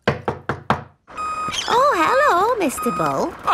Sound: knocking at door

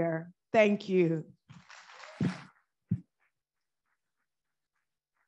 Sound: audience applauding

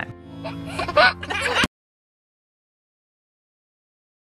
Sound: giggling

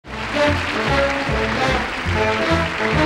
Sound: audience applauding; upbeat jazz music

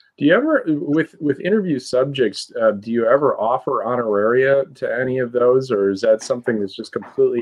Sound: laughing

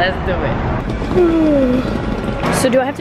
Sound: yawns

